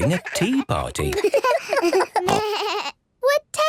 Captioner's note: giggles, snorts